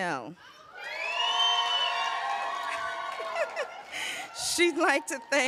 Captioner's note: cheers, applause